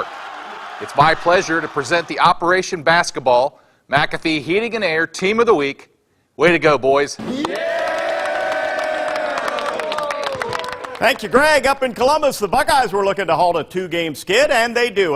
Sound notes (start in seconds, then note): 7.2 cheering/applause